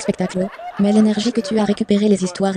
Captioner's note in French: hôtes et public riant